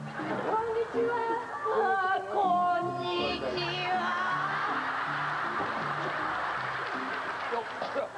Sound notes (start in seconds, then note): 4.5 laughter